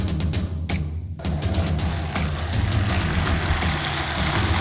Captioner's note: car engine revving